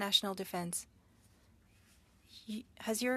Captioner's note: speaking French